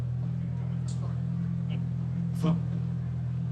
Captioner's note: laughing